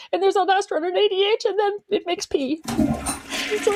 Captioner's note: flushing sound